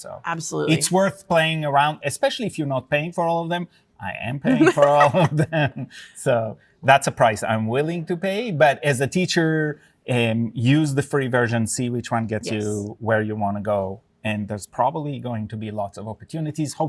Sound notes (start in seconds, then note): 4.4 laughs